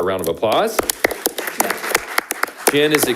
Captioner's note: group applauds